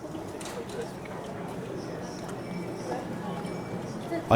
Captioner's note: mild background hubub from show